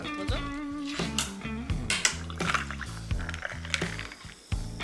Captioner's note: pouring sound